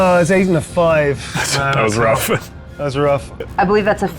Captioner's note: chuckles